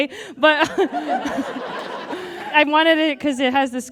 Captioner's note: audience guffaws